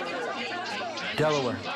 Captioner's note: people arguing